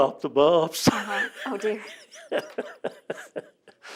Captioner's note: laughs